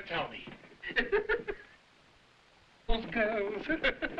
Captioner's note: Burgomil laughing